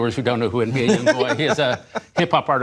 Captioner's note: laughter